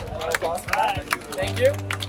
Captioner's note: scattered applause and cheers